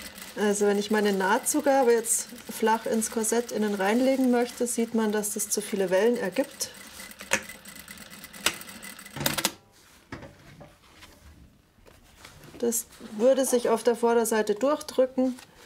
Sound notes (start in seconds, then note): 6.9 clattering, clicking